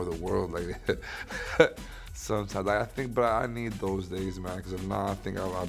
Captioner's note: laughs